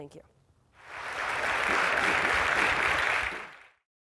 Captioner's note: applause